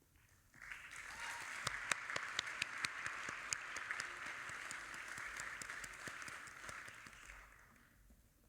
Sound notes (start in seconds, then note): 0.6 audience applauding